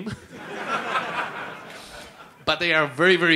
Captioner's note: laughter